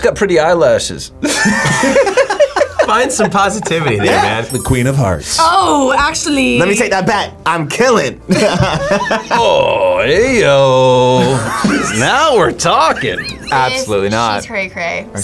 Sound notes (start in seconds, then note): 1.2 both laugh; 8.3 laughs